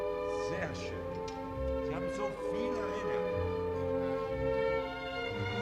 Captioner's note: speaking foreign language